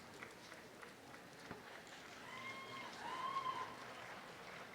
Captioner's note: audience applause